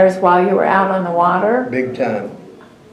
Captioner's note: laughs